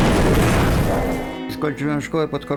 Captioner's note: masonry thudding; man speaking in foreign language